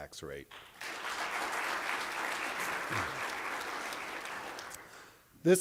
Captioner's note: applause